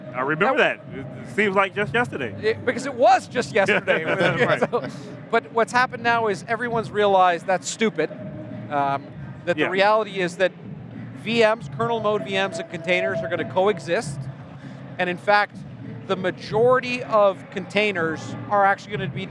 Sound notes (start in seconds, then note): 3.5 laughing